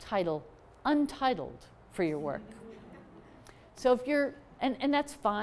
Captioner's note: laughter